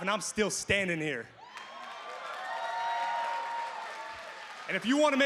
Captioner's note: crowd cheers